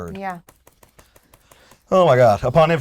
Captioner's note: computer keyboard clicks